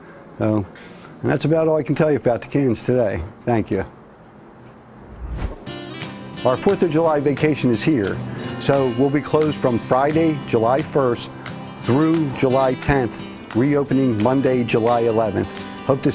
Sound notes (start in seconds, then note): none